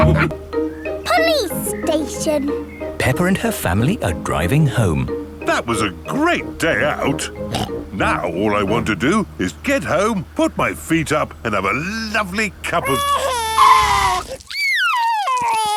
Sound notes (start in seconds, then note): 0.0 all laughing; 7.4 snorts; 12.7 crying; 13.2 tires screeching